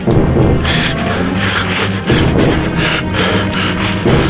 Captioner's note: panting